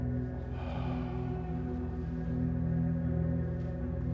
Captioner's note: sighs